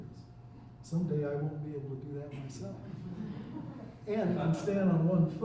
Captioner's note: chuckling